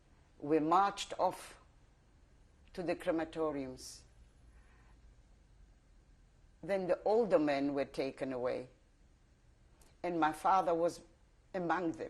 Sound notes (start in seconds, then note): 3.2 pauses for 3 seconds